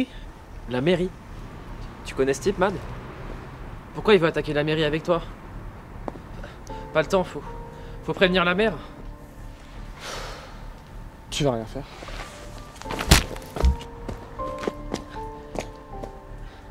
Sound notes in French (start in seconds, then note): 10.0 Soupir de Kazuya